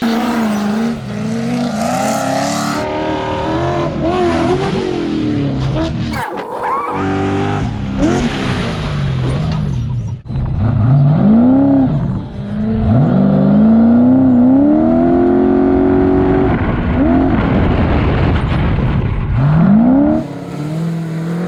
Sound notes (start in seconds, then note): 0.2 engine roaring; 6.1 tape rewinding; 8.4 engine roaring